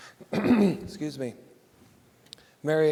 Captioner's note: clears throat